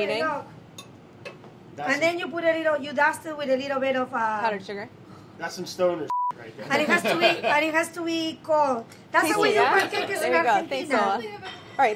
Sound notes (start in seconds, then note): 6.1 beeping